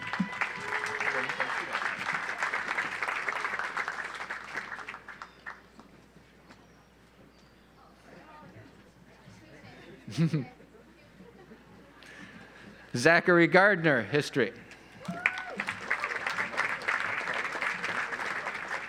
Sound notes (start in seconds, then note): 0.0 audience applauds; 10.1 laughs; 15.0 audience applauds